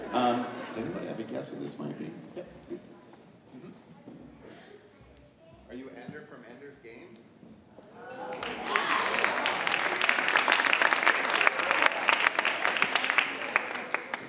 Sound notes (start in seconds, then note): 8.0 audience applauding